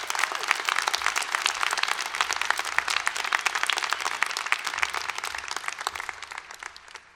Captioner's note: applause